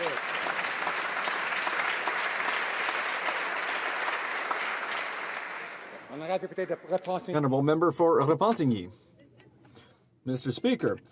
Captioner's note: some Applause